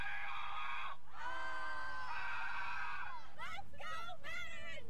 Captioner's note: cadets yelling; leader yelling